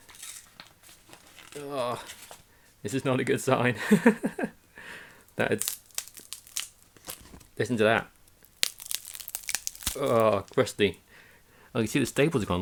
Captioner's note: crunching noises